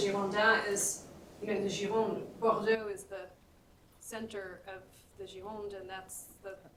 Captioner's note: french